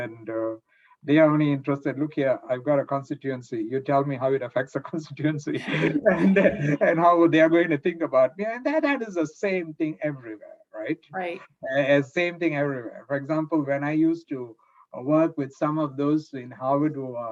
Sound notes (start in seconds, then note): 5.4 laughs